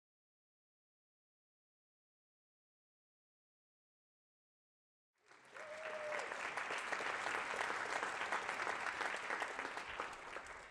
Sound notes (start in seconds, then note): 5.2 applause